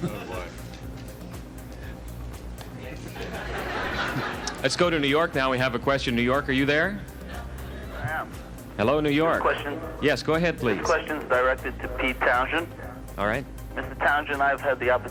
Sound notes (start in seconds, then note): 3.0 audience laughs